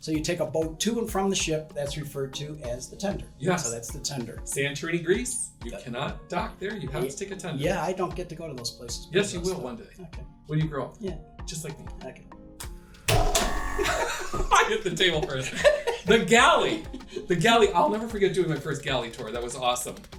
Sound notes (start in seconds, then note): 13.8 laughter